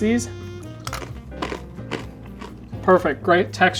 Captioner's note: bread crunching